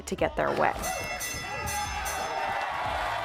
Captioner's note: audience cheering; bell ringing